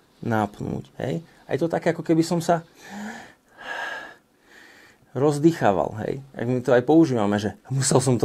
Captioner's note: inhales